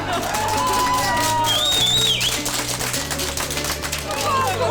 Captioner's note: applause